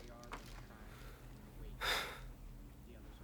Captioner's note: sighs